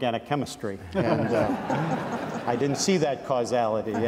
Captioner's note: audience laughs